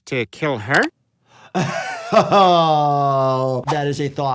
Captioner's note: laughing